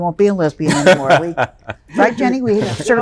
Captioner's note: laughs